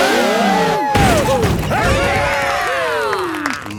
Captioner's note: crowd; applause